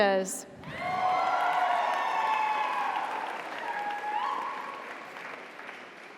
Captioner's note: audience cheers; audience applauds